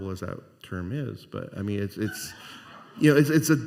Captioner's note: scattered laughter